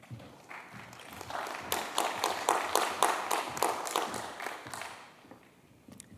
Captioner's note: applause